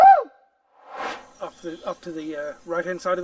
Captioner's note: air swooshes